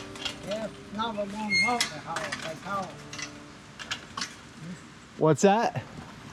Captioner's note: faintly speaking